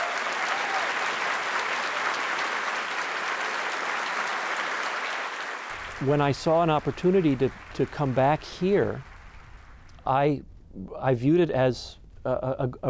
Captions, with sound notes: as we know it, really formed itself. [applause & cheers] When I saw an opportunity to come back here,